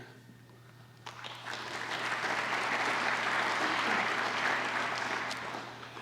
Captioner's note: applause